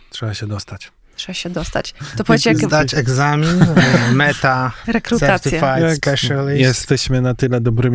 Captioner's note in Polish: śmiech